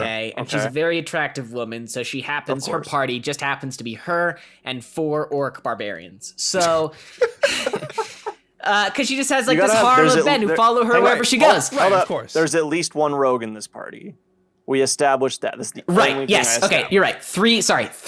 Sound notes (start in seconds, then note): 6.6 laughs